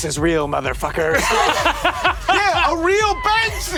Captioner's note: Brennan laughing